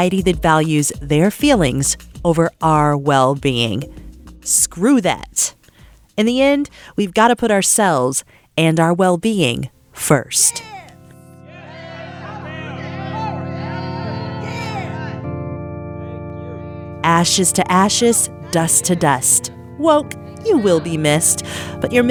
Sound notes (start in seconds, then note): 11.5 crowd; 13.6 people cheering